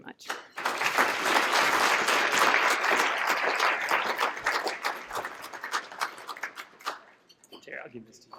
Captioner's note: applause